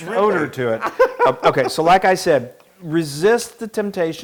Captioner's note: laugh